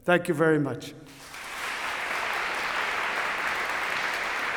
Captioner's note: applause